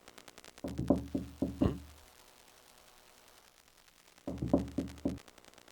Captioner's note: knocking on door